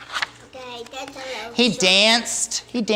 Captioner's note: child speaking